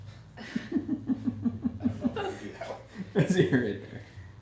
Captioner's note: laughing